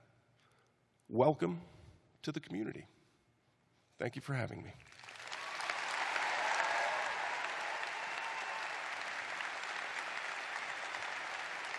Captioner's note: cheers and applause